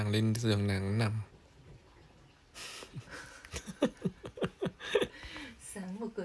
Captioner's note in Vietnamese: Tiếng cười